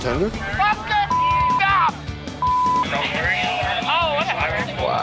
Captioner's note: chatter